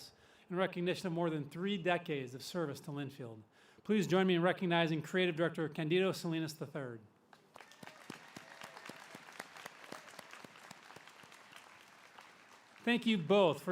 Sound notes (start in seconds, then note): 4.5 applause